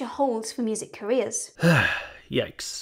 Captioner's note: sigh